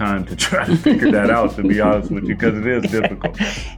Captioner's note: chuckling